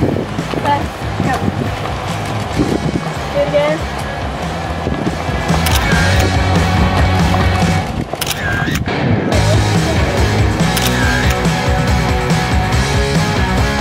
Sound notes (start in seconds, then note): 5.9 camera shutter clicking; 5.9 upbeat rock music